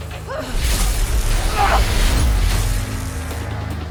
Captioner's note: zapping